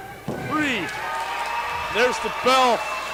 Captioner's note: crowd cheers and applauds